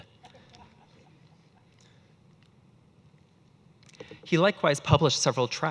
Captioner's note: audience laughing